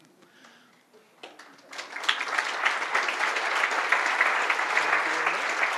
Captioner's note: audience applauding